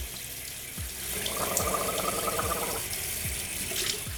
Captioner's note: gargling